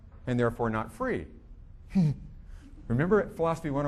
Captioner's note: chuckling